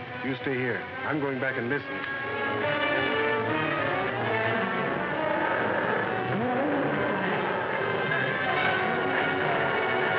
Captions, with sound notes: - You stay here, I'm going back and listening. (suspenseful music) (lion roaring)